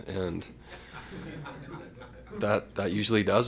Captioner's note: laughter